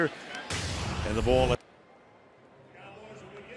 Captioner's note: audio out